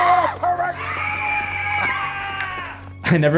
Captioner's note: group screaming